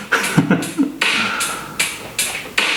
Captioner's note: laughs